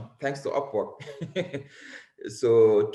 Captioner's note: laughs